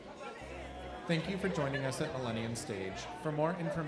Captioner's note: voiceover